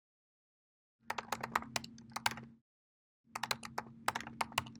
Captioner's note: clicking